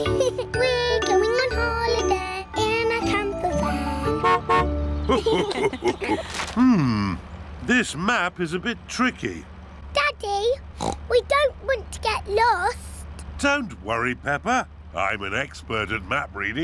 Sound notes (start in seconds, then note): 3.6 horn honks; 5.0 laughter; 10.7 oinks